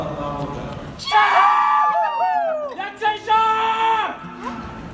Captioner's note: cheers from family and friends